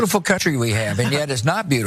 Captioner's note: laugh